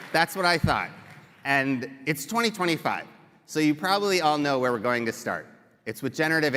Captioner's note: cheering and applause